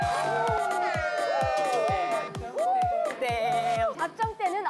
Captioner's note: boom boom